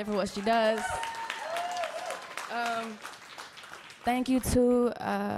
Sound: applause

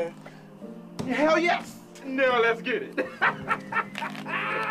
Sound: laughing

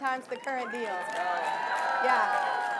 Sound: audience cheering

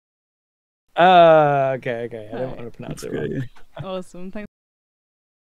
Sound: laughs

